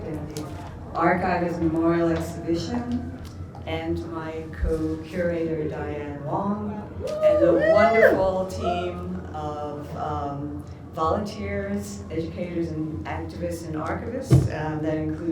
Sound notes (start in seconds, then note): 7.0 whooping